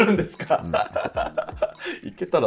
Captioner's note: laughing